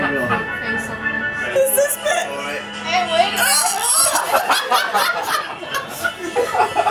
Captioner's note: laughing hysterically